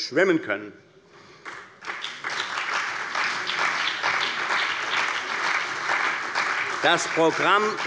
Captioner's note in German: Beifall bei der CDU und dem BÜNDNIS 90/DIE GRÜNEN